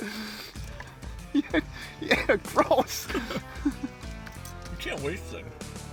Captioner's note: laughing; voiceover